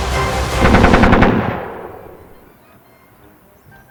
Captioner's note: gun firing